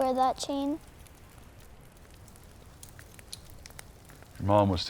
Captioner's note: fire crackling